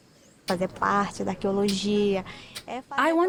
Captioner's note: speaking Portuguese